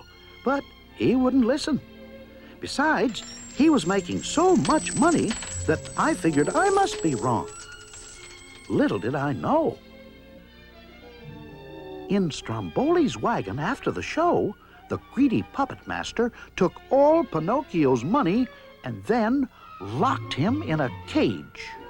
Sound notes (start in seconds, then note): 2.7 coins jingling